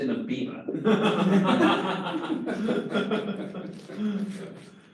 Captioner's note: class laughs